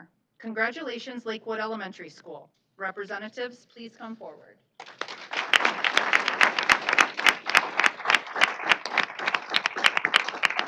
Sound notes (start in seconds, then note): 4.8 applause